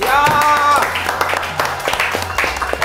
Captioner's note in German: Applaus